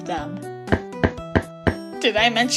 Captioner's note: four foot taps